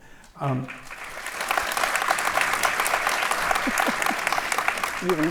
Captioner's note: audience applauds